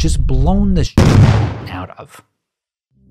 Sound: loud exploding

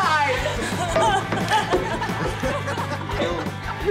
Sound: laughter

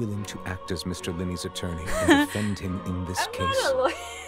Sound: nervous laughter

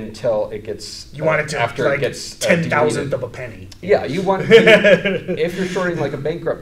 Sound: laughs

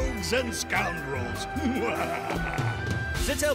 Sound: laughs nastily

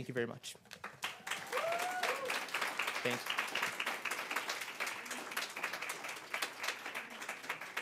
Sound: applause

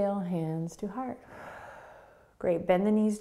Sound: exhaling

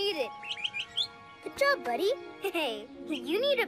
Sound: chirps

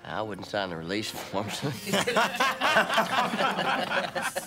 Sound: laughing

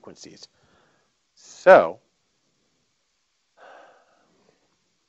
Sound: sighing

